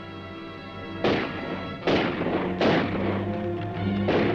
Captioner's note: dramatic music; gun firing; dramatic music